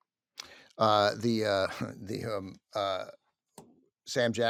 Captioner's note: stutters